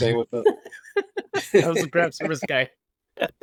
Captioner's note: laughing